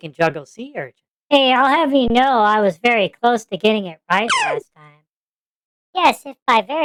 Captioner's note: laughs